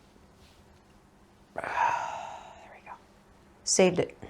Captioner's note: sigh